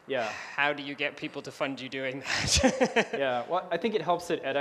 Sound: laughs

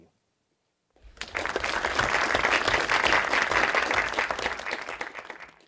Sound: applause

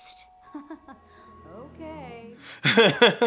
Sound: laughs

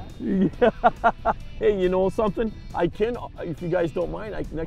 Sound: laughs

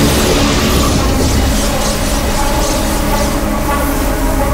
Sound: whooshing

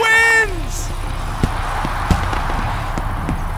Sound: cheering

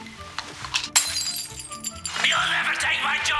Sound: glass smash

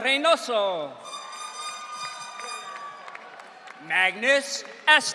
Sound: audience cheering

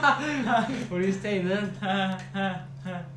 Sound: nervous laughter

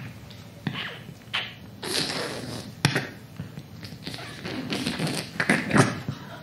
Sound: squishing, squelching sound effect

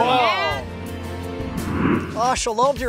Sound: air whooshing; soft music

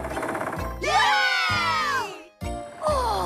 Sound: all Cheer

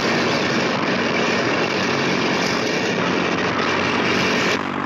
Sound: engine roar

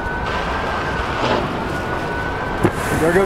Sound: wind blowing

